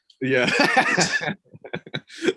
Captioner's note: laughing